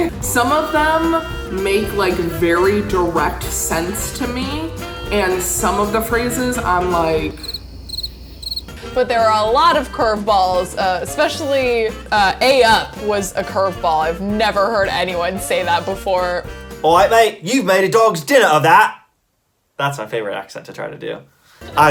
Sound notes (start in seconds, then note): 7.2 crickets chirping